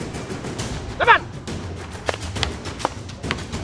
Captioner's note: referee speaks in Tagalog; sticks clunking